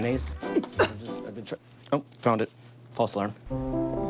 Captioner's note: gags